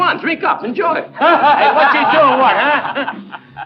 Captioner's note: men laughing